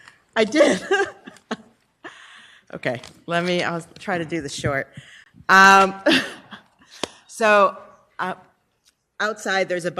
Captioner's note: laughter